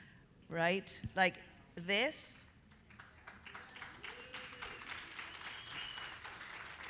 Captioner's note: audience applauding